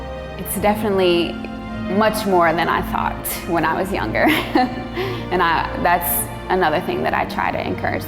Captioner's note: laughs